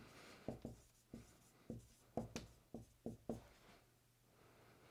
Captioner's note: marker scratching